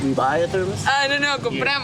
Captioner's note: speaking In Foreign Language